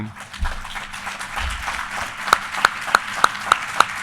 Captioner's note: audience applauding